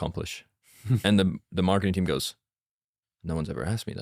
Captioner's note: laughs